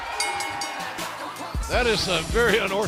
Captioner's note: bell ringing